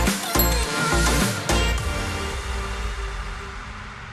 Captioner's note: bell dinging